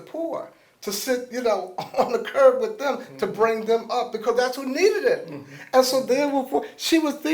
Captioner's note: laughs